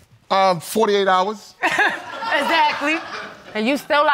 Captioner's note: laughs